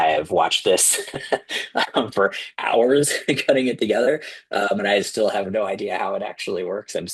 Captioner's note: laughter